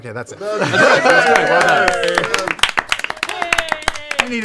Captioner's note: cheering